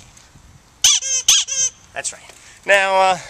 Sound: squeak

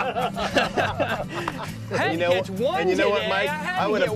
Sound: laughter

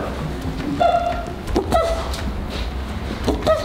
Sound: scanning noises

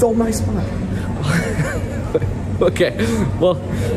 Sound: laughing

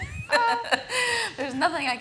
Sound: laughing

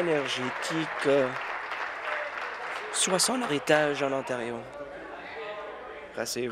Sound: applause

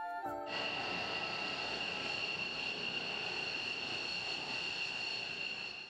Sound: jet sound

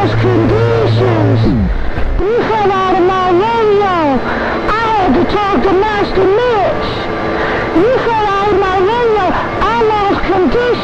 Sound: sarcastic whiny voice

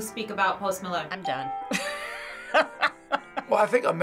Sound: laughs

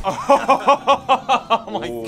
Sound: laughs derisively

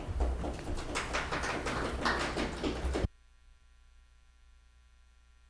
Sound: audience applauding

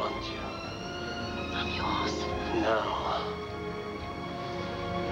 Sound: french accent

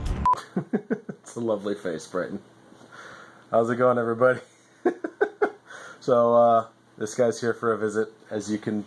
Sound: laughs

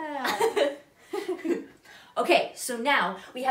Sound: both laugh

